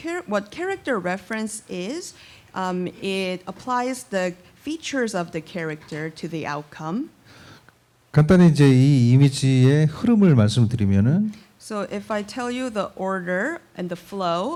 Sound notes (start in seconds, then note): 7.9 speaking korean